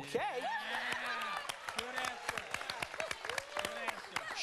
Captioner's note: family cheers